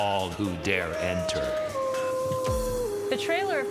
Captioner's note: wolf howling